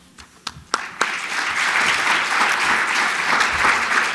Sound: applause

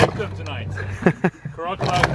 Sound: chuckles

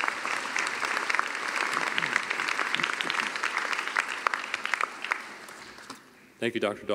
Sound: cheering and applause

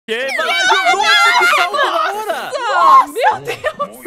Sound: screams

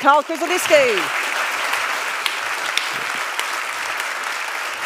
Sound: audience claps

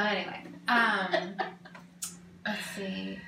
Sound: laughs

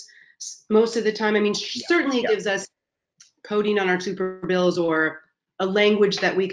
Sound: voice muffled

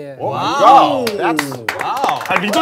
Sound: everyone congratulating

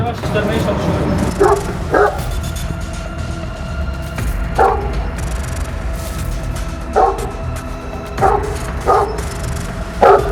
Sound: barking sound and suspenseful music

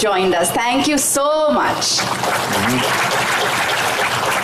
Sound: applause

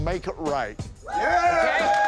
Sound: cheers

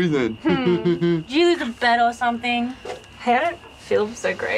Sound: laughs

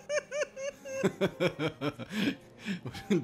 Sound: Ben laughs nervously; giggles

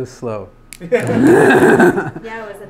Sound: everyone laughs

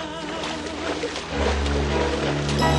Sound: water splashing

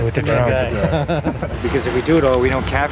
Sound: laughing

